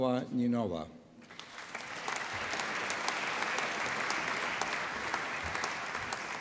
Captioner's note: applause